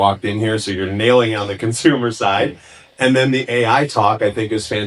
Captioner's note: chuckles